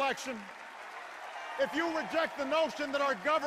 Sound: enduring cheers and applause

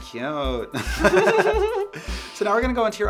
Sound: laughing

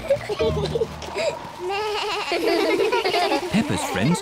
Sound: both giggle; suzy bleats; all laugh

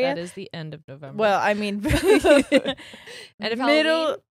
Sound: both laugh

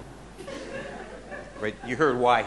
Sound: audience laughing

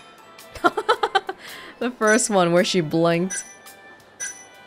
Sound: chuckles

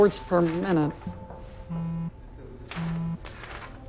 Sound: phone buzzes

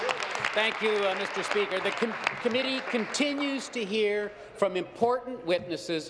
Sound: applause

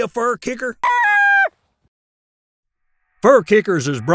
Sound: coyote screaming

